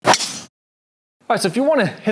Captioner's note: ball cracking